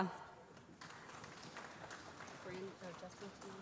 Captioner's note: applause